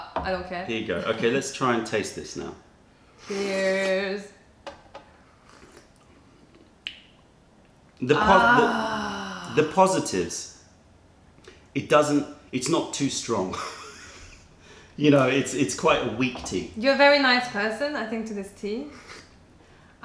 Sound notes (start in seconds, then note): 3.1 sips tea; 5.4 sips tea; 13.5 laughter